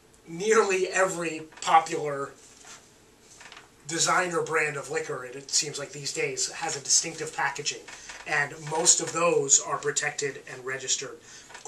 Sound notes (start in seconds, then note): none